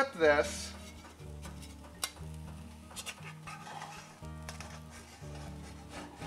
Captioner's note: rhythmic bright music; metal scraping